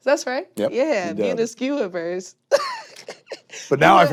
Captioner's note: chuckles sheepishly